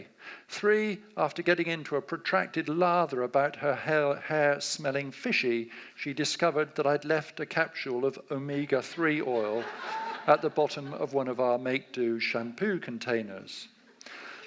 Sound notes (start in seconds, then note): 8.8 audience laughs